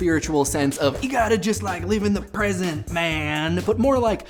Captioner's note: hippie voice